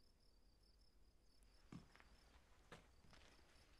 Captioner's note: crickets chirping